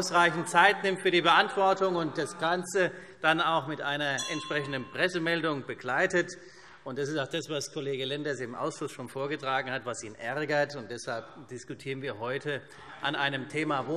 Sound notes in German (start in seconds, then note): 6.4 Unruhe – Glockenzeichen